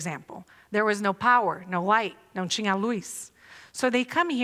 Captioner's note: non-english speech